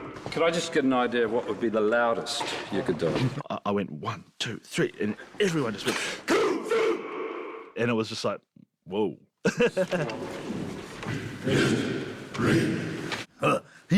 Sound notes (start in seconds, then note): 6.2 all chant in dwarven; 11.1 all chanting in dwarven